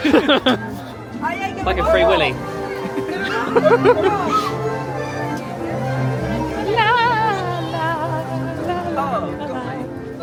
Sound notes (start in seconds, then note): 0.0 both laughing; 2.8 they giggle; 5.6 bright music